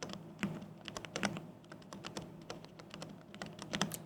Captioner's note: keyboard clicking